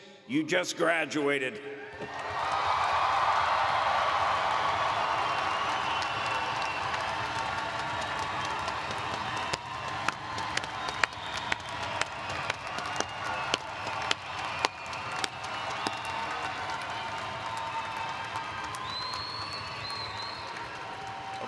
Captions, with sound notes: You just graduated. [ Cheering ]